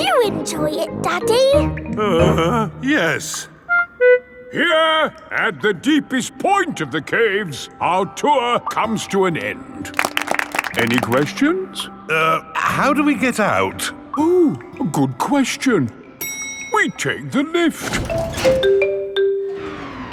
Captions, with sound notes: Did you enjoy it, Daddy? (GROANS) Yes. Here, at the deepest point of the caves, our tour comes to an end. (ALL CLAPPING) Any questions? Er... how do we get out? Oh, good question! -(ELEVATOR DINGS) -We take the lift!